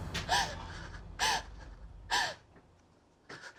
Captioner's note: gasping